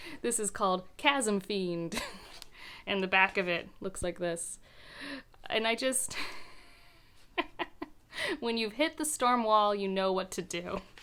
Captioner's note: laughs a bit